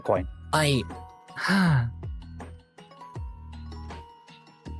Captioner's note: sighing